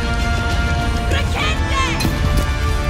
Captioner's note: villagers screaming